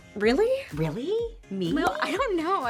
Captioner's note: graphics pop